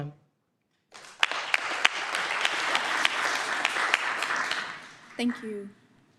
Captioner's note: applause